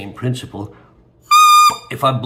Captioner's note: squeak